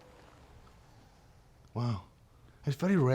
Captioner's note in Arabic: لهجة اسكتلندية